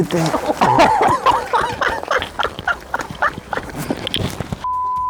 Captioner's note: laughter